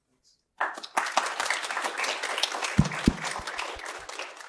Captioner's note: applause